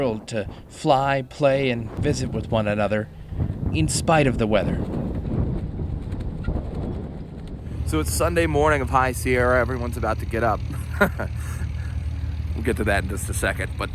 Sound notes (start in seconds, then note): 10.6 laughs